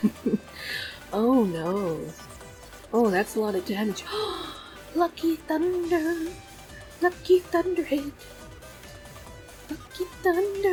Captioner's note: laughs; gasps